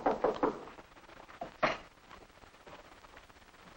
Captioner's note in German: klopfen